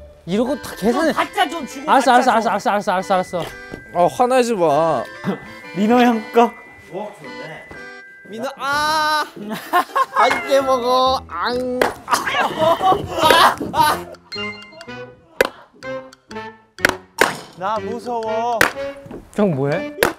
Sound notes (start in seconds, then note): 11.8 this sound is chopping wood